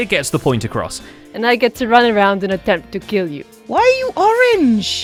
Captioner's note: "Bond Villain" voice